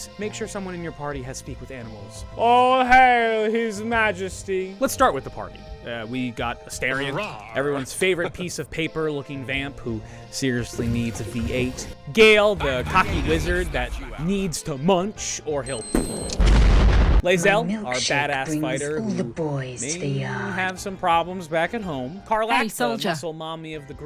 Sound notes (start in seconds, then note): 16.0 blow up sound